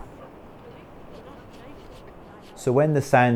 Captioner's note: beach sounds